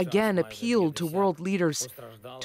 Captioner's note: speaking alternate language